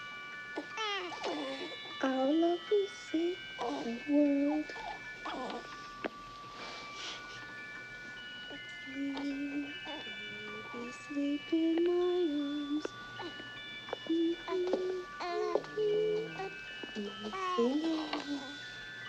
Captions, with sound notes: [baby fusses] Our love will save the world. [toy music continues] Sleep, baby sleep in my arms. [Peggy hums]